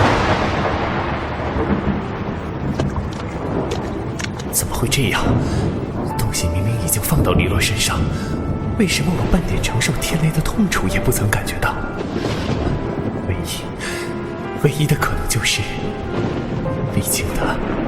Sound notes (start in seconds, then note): 4.5 thunder